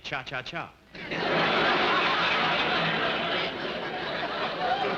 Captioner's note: audience laughing